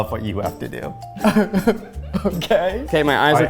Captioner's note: laughing in confusion